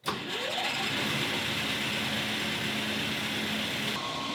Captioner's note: lathe whirring